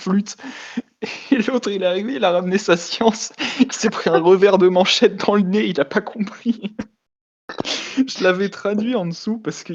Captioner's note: laugh